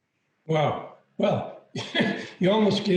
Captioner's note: laughs